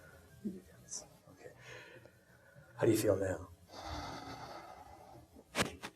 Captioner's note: exhaling